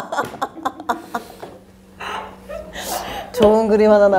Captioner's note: laughing her head off at herself! LOL!